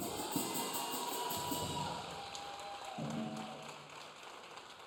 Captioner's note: audience cheering